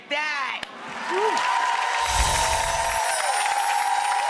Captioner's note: applause